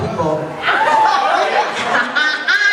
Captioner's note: cheering; laughs loudly